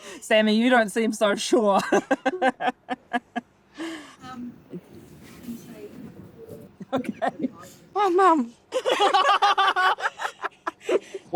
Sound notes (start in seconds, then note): 2.2 laughs; 4.1 off-camera: speaking quietly; 6.5 laughs; 9.6 laughing